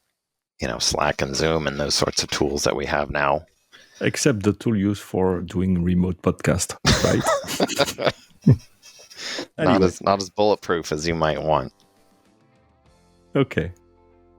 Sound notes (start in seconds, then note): 6.8 laugh